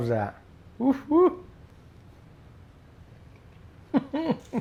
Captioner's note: sighs delightedly